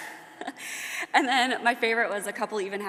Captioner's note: laughs